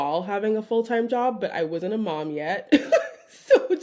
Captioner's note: chuckling